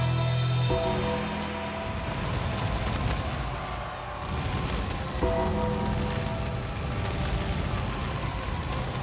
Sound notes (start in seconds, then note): 2.3 creepy music continues; 2.3 fire roaring